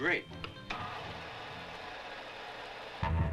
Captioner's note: projector rattling; upbeat surfer music